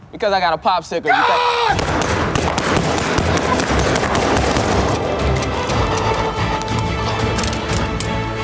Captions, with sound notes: - Because I got a popsicle you-- - Gun! (gun booming) (dramatic music)